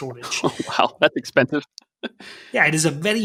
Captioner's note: snickers